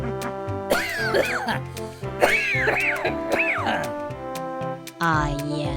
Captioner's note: coughing